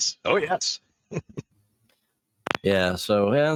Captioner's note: laughs